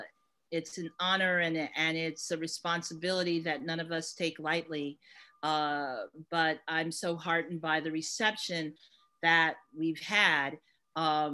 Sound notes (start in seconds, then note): none